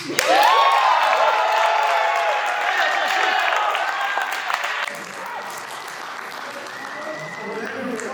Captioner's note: applause